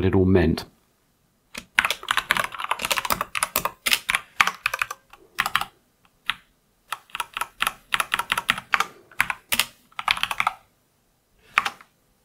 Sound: typing

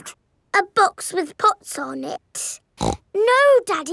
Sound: snorts

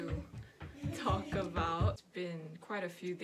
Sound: footsteps

